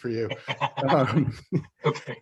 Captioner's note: laughs